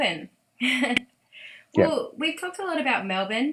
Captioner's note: laughs